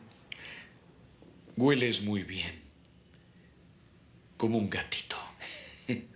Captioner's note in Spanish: risos